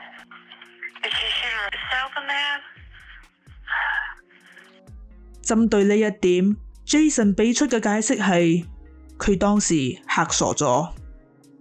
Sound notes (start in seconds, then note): 3.7 exhales